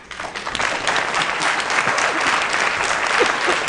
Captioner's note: applause